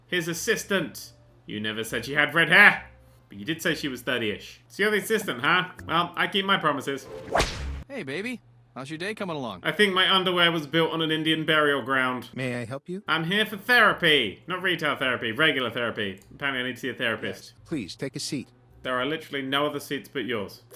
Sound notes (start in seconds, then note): 7.0 whip snap